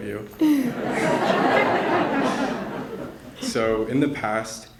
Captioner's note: more laughter